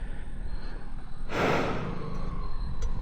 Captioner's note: exhaling